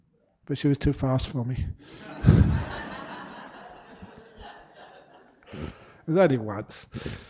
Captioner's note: laughter